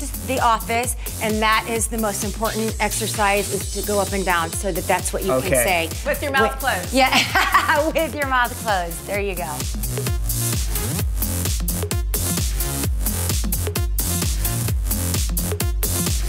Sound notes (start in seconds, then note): 6.9 laughing